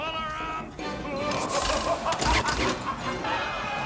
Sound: laughing maniacally

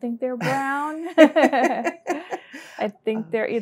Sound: both laugh

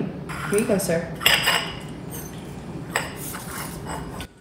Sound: metal clanging

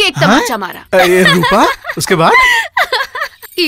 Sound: laughs

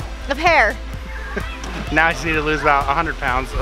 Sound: chuckles

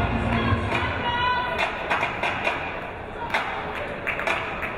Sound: fast rhythmic clapping

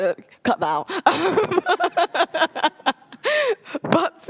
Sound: laughs

